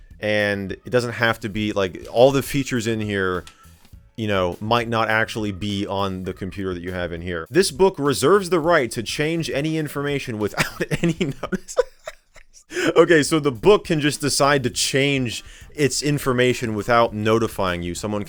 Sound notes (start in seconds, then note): 10.6 laughing